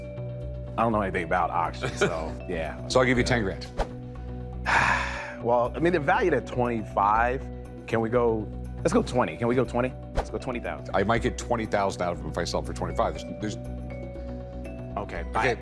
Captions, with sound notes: I don't know anything about auctions, so yeah. So I'll give you 10 grand. [sighs] Well, I mean, they're valued at 25. Can we go--let's go 20. Can we go 20? Let's go 20,000. I might get 20,000 out of them. If I sell them for 25,000, there's-- Okay, I--